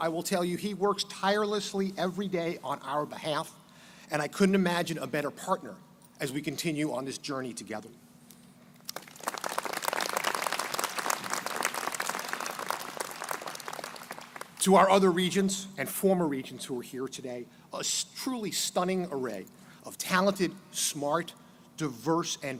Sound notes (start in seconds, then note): 8.9 crowd applauding